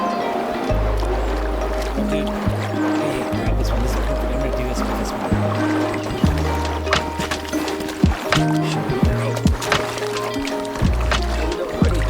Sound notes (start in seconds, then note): 0.0 water splashing; 8.4 upbeat music